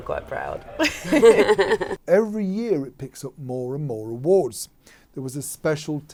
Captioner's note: laughter